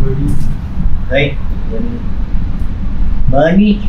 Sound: in Mandarin

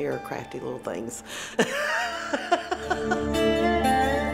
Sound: laughing

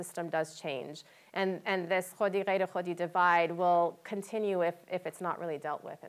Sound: non-english speech

